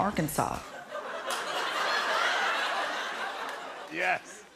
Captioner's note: laughter